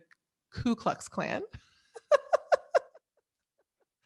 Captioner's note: laughs